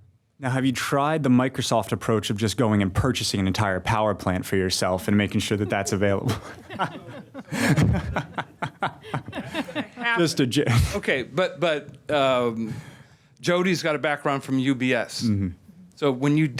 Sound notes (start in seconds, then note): 10.3 laugh